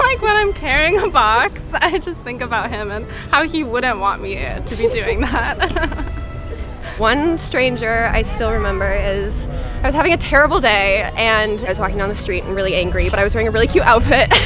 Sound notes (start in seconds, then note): 4.6 laughs